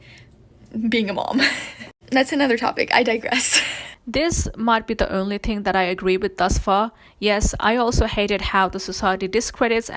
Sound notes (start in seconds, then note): 1.2 laughs